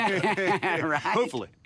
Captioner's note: laughing